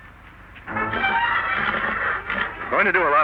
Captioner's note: Silver whinnies